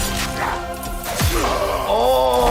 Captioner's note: characters grunting